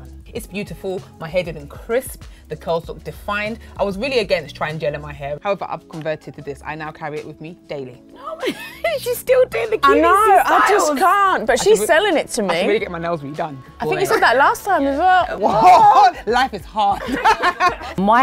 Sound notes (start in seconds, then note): 8.2 laughs; 16.9 women laugh